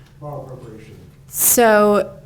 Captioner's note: faintly speaking